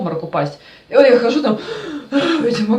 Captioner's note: sounds of trying to breathe air